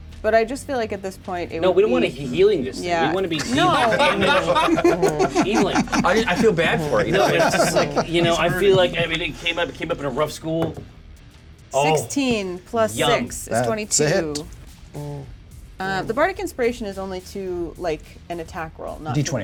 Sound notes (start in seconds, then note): 4.1 laugh